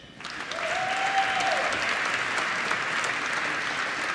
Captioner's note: applause